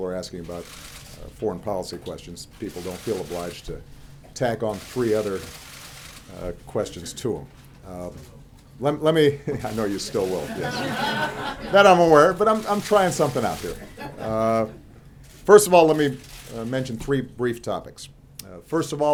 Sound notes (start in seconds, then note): 11.2 laughter